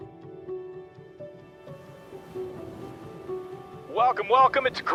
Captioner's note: soft music; waves crashing; radio broadcast begins